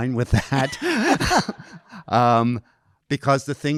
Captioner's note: audience laughing